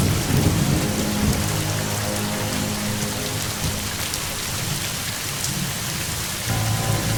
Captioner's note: dramatic music; rain falling